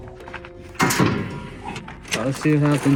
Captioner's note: door clanking